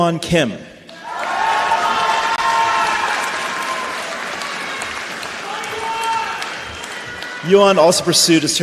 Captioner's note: applause; cheers and applause